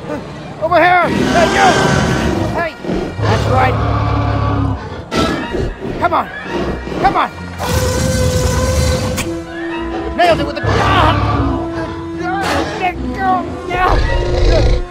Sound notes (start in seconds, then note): 7.9 tyrannosaur Roar